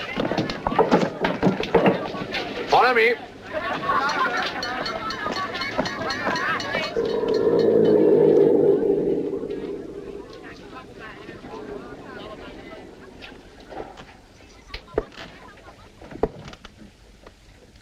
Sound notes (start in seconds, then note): 4.2 snarling